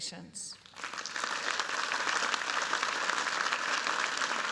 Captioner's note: applause